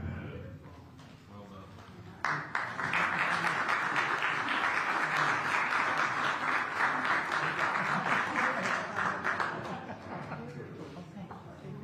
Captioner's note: applause